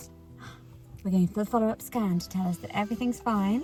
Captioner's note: gasps